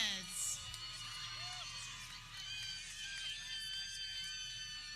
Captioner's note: people cheering